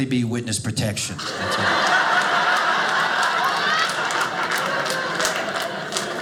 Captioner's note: audience laughing